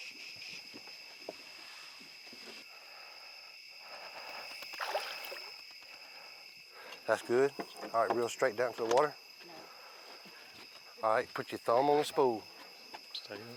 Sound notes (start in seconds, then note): 4.4 water splashing